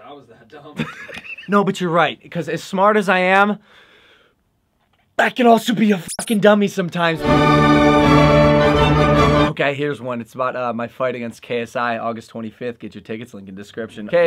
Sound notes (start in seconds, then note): 0.7 laughter; 7.2 classical music